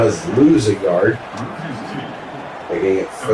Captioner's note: crowd Noises